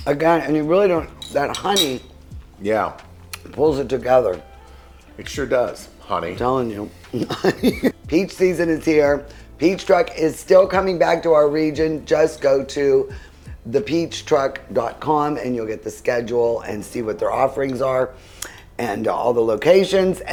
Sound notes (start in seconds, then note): 7.0 laughs